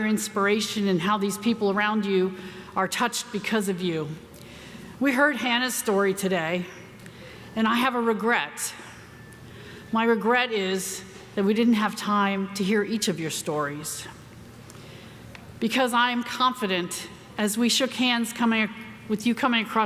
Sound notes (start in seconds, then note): none